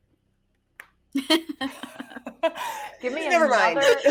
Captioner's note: people chuckling